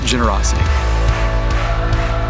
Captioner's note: rhythmic clapping